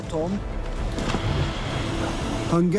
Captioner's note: sound of moving slab